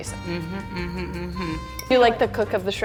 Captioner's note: humming